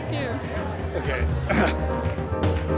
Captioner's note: short laugh